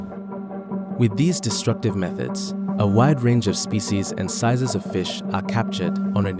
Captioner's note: voiceover